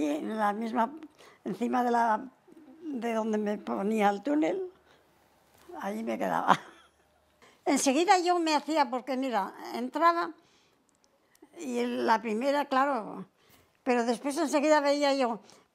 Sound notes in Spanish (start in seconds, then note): 6.5 ríe